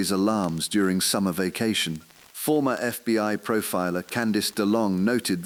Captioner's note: exhale